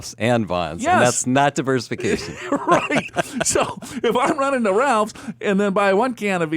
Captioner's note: laughs